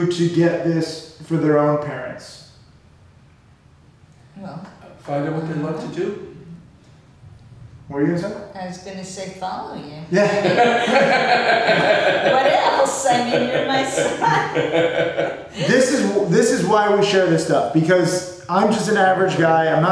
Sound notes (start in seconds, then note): 10.2 laughing